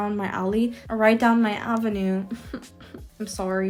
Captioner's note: chuckles